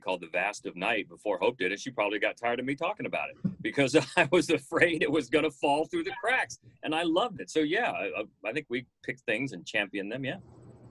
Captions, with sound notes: called, "The Vast Of Night" before Hope did it. She probably got tired of me talking about it because I was afraid (chuckling) it was gonna fall through the cracks and I loved it. So yeah, I think we picked things and champion them, yeah.